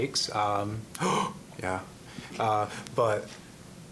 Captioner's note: gasping